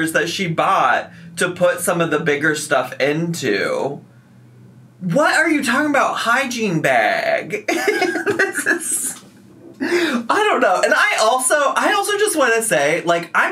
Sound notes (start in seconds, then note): 7.7 laughing